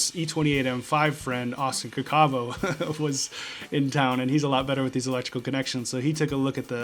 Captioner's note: laughing